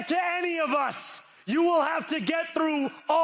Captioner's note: cheering